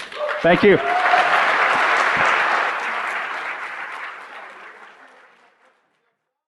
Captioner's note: cheers and applause